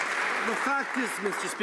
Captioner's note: some Applause